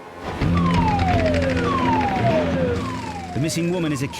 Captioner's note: dramatic music; siren blares